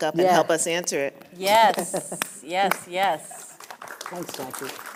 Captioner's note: clapping